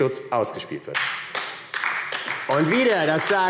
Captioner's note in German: Beifall AfD